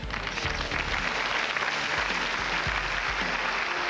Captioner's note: applause